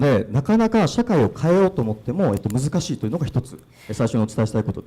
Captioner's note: speaking foreign language